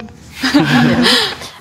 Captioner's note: laughs